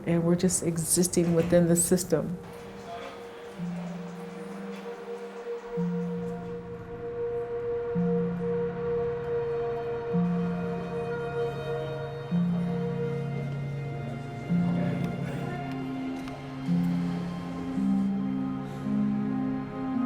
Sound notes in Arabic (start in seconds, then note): 3.6 ثرثرة الناس; 3.6 موسيقى محيطة تأملية